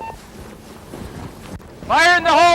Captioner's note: beeping